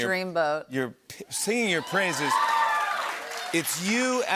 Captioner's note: cheers and applause